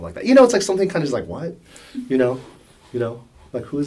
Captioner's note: laugh